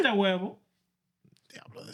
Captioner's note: speaking In Foreign Language